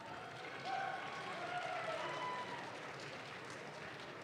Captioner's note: audience claps